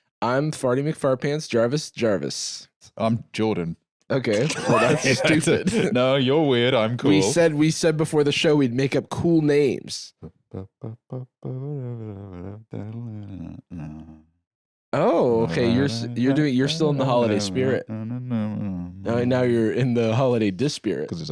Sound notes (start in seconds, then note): 10.2 softly vocalizing to the tune; 18.3 singing grumpily